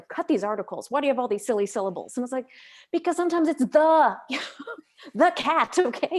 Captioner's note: laughs